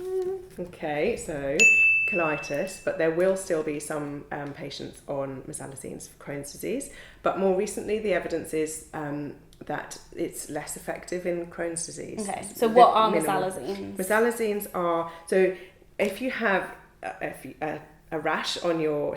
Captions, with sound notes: - Okay, so. (bell dings) Colitis. But there will still be some patients on mesalazines for Crohn's Disease, but more recently the evidence is that it's less effective in Crohn's Disease. - Okay, so what are mesalazines? - Mesalazines are, so if you have a rash on your skin